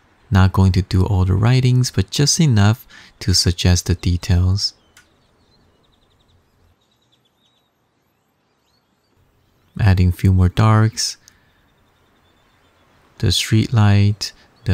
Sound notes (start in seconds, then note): 4.9 birds chirping; 11.2 birds chirping